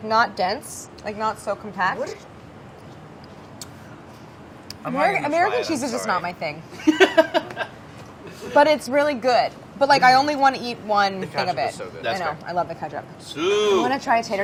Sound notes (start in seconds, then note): 6.8 laughing